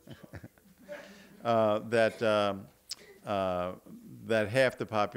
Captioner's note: laughing; audience laughing